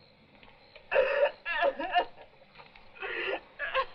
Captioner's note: woman crying